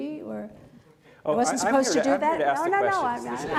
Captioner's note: laughter